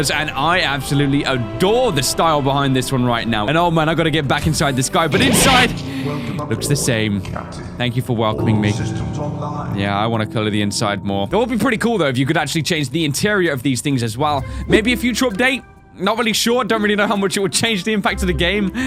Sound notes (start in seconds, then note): 5.0 record scratch